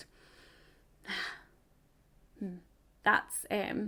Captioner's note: sighs